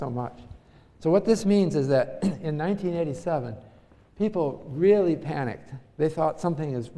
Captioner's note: cough